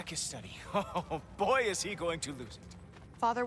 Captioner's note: laughing